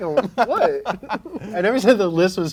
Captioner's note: laughs